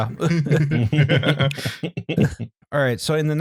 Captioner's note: laughter